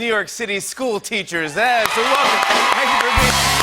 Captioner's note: cheering and applause